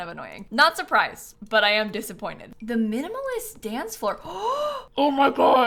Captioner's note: gasps